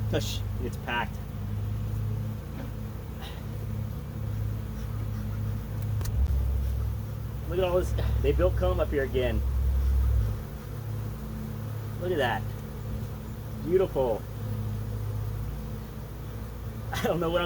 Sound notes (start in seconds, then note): 2.0 bees buzzing; 15.1 bees buzzing